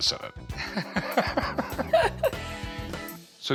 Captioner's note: laughter